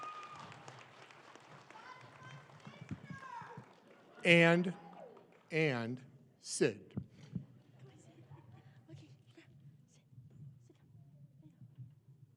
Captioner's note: applause